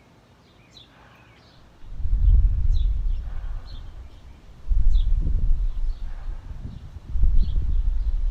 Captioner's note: explosions from a far